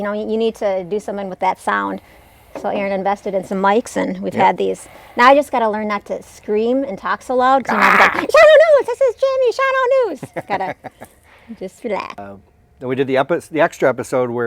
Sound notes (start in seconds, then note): 7.7 yelling